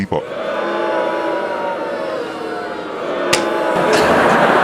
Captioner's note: booing; laughter